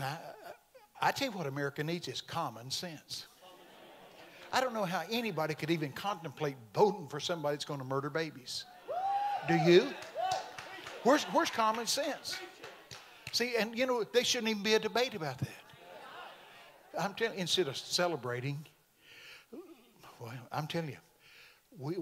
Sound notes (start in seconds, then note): 3.7 congregation amens; 8.6 congregation cheering